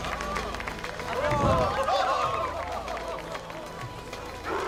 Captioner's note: cheers and laughter